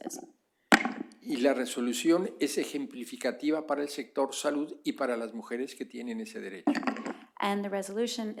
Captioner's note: speaking spanish